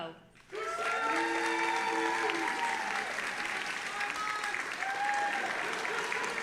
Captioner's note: audience applauding and cheering